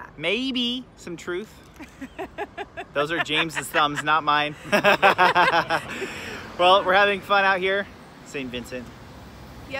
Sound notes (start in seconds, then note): 1.8 laughter